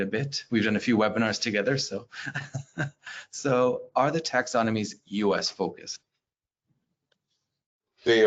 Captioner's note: laughs